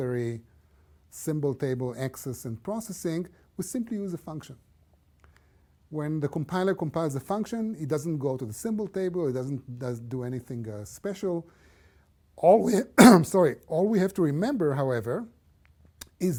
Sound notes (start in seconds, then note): 12.6 cough